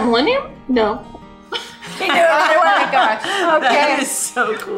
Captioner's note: ladies laugh